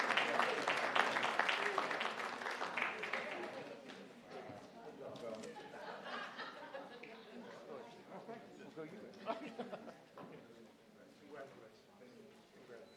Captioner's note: applause